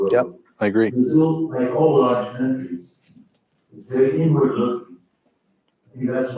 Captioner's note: faintly speaking; faintly speaking